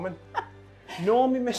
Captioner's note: laughs